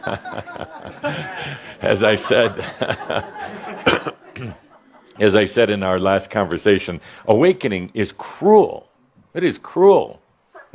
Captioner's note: laughter